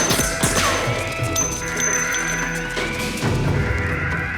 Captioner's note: alarm sounding